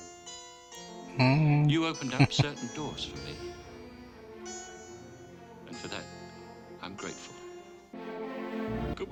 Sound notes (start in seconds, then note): 1.2 chuckling